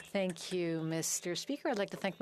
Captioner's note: speaking French